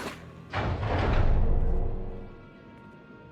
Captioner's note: door opens